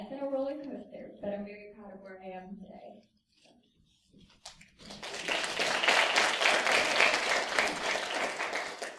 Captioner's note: applause